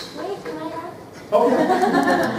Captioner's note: laughter